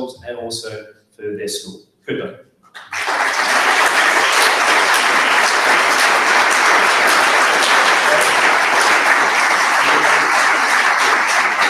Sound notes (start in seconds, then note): 2.9 audience applauds